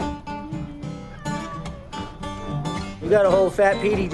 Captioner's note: meowing